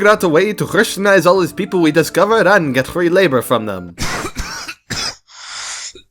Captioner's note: coughing